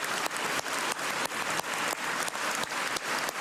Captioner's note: cheers and applause